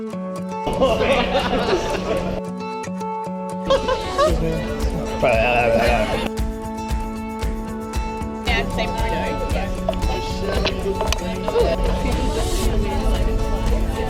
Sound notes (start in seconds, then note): 0.7 cheerleaders laughing; 2.6 gentle upbeat music; 5.1 gurgles; 7.1 gentle upbeat music